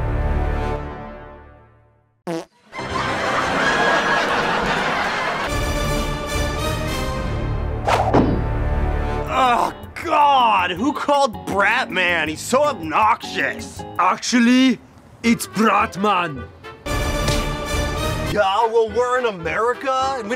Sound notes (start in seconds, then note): 2.2 fart; 2.7 laugh Track In Background